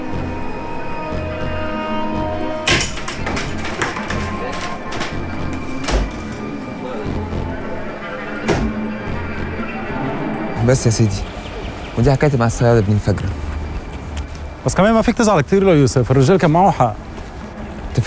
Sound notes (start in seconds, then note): 2.2 things drops off